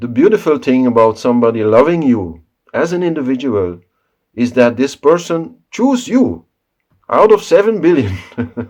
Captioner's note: laugh